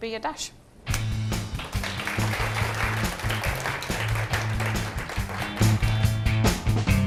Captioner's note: applause